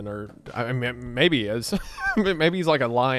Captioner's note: laughs